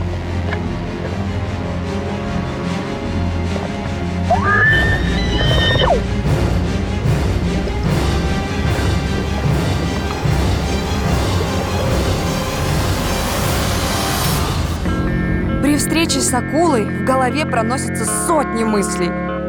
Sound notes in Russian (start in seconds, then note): 4.3 слышен приглушенный водой крик